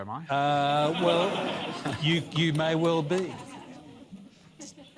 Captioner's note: laughter